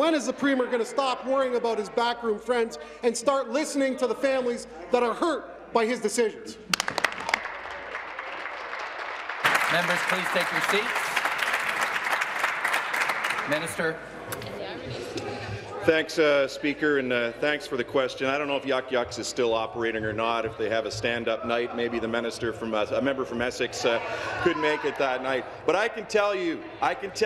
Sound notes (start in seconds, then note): 9.7 applause